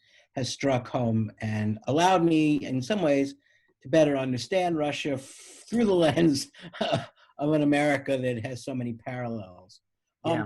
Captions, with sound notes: struck home and allowed me in some ways to better understand Russia through the lens (laughs) of an America that has so many parallels.